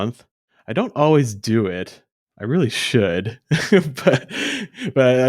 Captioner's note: laughs